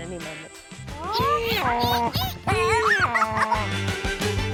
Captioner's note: all make animal noises